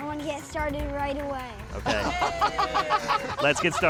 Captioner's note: laughter